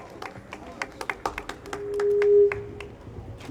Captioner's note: speaker feedback